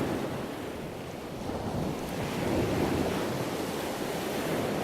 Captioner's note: sound of waves crashing